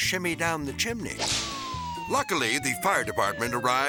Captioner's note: whip cracks; siren wailing